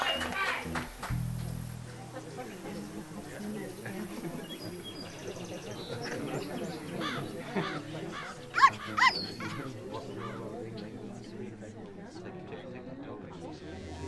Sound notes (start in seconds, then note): 8.9 crowd walla